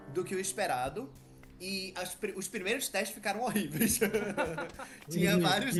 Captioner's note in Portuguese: risos